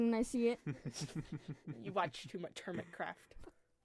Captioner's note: laughter